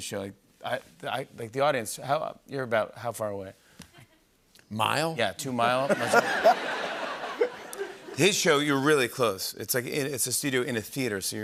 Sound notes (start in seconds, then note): 5.8 laughter